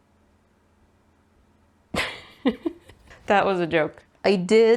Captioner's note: laughs